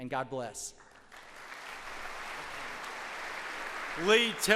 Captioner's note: audience applauds